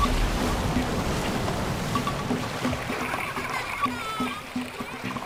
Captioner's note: boy crying